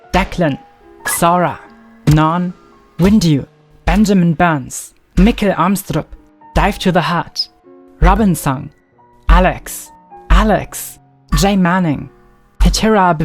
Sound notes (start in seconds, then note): none